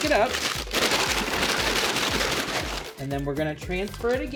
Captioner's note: loud rustling